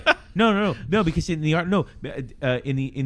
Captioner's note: uh